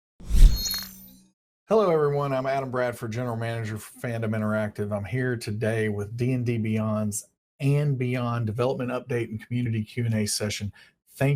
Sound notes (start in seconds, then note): 0.2 whooshing